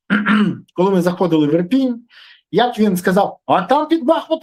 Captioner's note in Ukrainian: прочищення горла